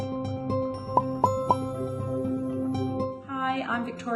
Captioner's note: upbeat music; gentle pops